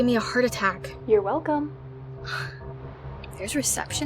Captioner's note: Miranda sighs